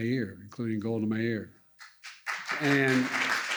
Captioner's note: applause